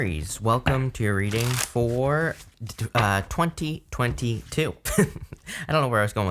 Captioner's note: laughs